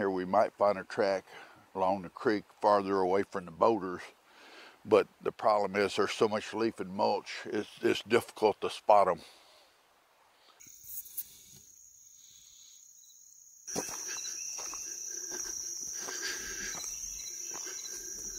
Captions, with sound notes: We might find a track along the creek farther away from the boulders. But the problem is there's so much leaf and mulch, it's difficult to spot them. (animals chittering)